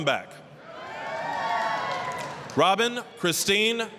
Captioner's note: applause, cheering